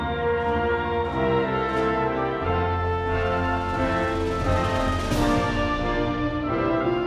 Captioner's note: crowd cheering